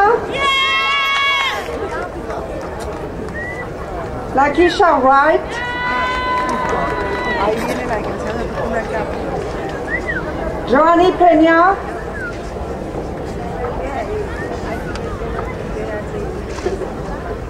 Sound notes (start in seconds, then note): 0.2 crowd cheering; 5.3 crowd cheering